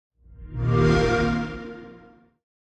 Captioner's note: Xbox sound